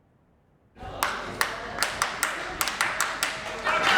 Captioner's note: rhythmic clapping